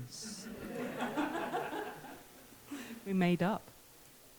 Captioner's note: audience laughs